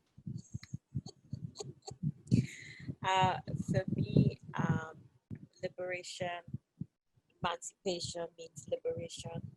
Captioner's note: laughter